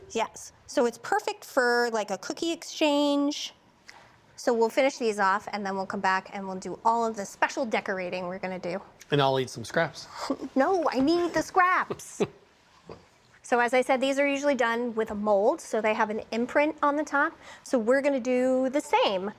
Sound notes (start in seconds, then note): 11.8 laughs